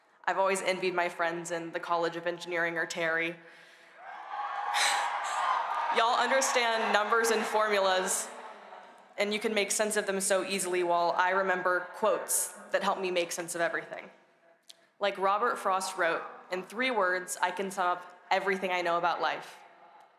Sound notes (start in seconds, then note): 3.9 cheering